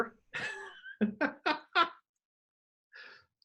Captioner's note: laughs